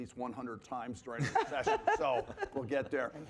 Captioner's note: panelists laughing